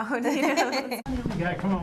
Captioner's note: laughter